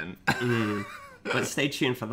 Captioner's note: laughs